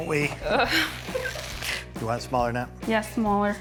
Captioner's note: chuckling; crew laughing